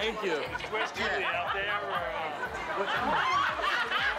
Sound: men chattering; laughter

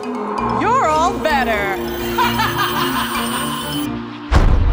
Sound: evil laugh

